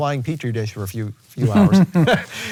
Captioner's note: laughing